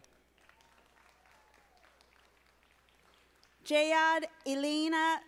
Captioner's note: audience applauding